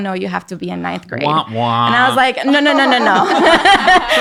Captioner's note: everyone laughing